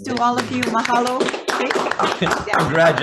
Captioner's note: all clapping; laughing